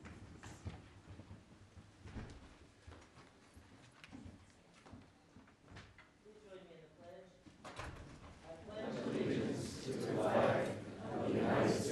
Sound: moment of silence

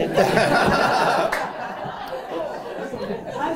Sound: laughter

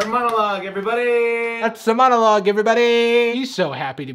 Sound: imitating Jimmy Fallon

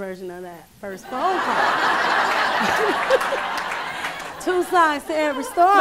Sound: raucous laughter

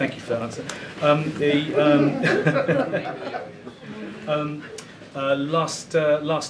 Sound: laughter

